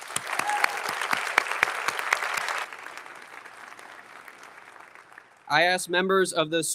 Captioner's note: audience applauding; audience member cheers